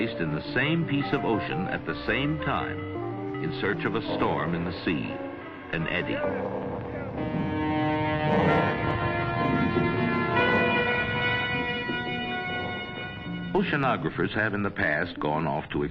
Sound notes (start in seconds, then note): 7.2 ships horn